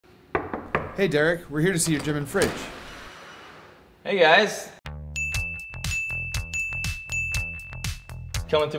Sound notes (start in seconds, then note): 0.3 knocking; 4.8 funky bass music